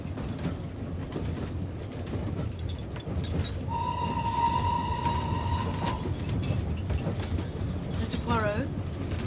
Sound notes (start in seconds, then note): 3.6 peluit kereta ditiup